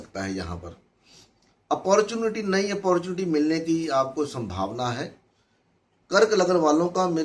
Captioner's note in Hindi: नाक से की जाने वाली आवाज़